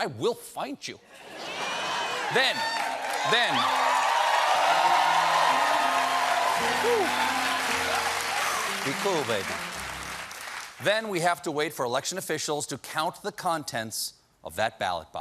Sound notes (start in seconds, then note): 6.5 cheers and applause; 8.4 piano riff